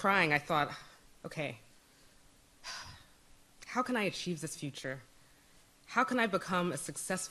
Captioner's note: sighs